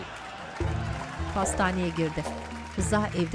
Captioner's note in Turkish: Fonda alkış sesleri